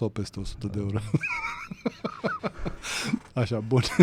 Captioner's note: laughter